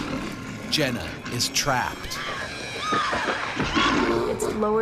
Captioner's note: voiceover